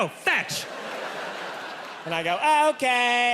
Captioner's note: audience laughing